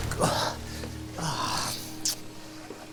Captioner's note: groaning